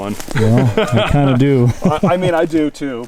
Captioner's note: chuckling